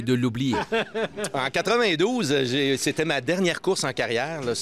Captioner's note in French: rires